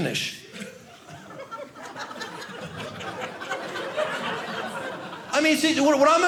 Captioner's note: audience laughing